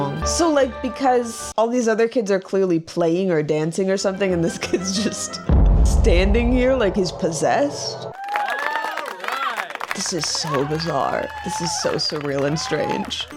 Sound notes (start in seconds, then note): 8.1 cheering